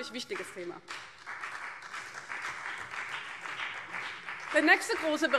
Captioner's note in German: Beifall BÜNDNIS 90/DIE GRÜNEN